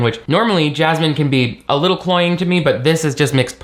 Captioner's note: none